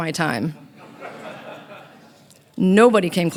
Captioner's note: audience laughing